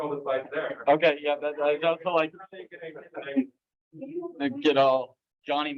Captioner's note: laughter